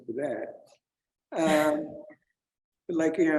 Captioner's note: chuckles